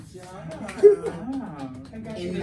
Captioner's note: clapping